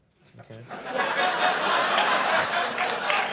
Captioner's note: audience laughing; audience applauding